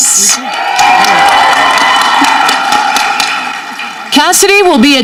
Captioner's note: audience clapping